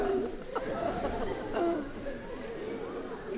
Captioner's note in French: rires